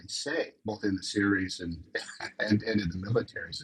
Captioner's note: chuckles